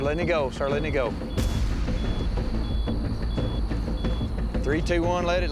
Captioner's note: steady beeping continues